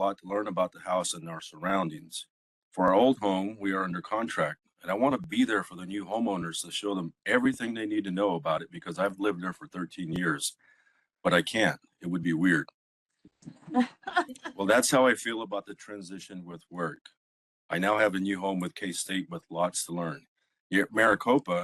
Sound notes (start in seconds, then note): 13.6 laughing